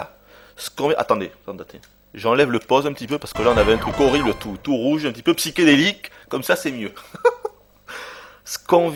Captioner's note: laughs